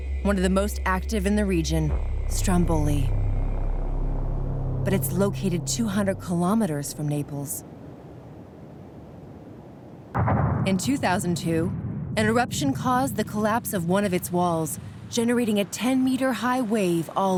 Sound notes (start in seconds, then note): 3.7 ominous music; 10.1 booming